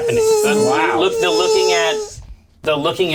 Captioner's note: imitates buzzing insect